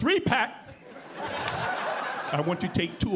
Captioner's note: audience laughing